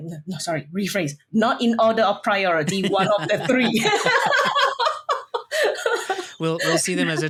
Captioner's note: laughs